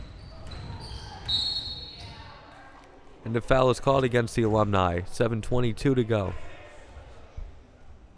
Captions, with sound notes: (whistle blowing) The foul is called against the Alumni. 7:22 to go.